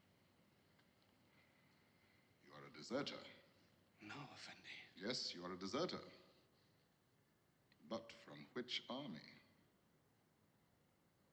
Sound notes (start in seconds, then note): none